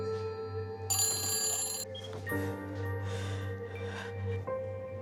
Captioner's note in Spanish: Sollozos